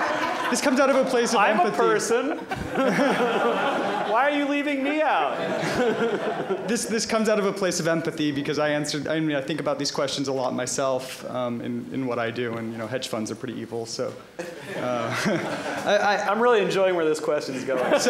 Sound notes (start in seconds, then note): 2.3 laughter; 5.5 laughter; 14.4 laughter